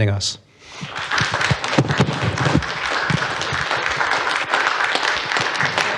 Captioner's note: applause